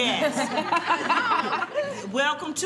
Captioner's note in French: Rires